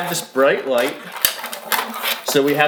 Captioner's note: toy scraping